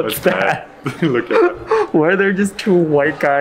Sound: both laughing

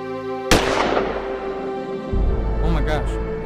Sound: soft dramatic music continues; gunshot

